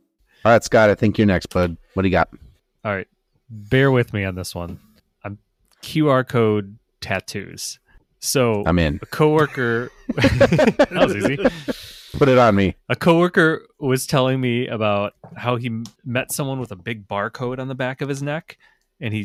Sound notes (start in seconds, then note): 8.8 laughter